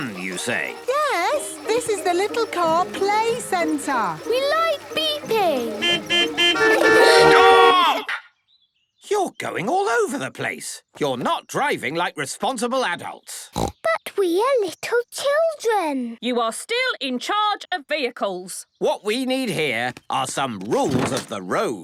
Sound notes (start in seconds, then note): 5.1 horns beeping; 13.5 snorting